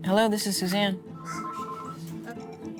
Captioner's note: phone rings